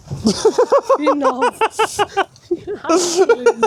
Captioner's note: laughing